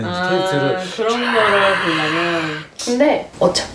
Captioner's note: screams